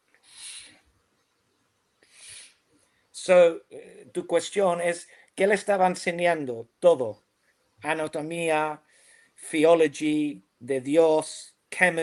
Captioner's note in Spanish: resoplido